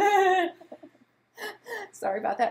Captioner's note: laughs